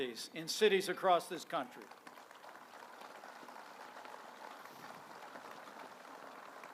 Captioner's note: applause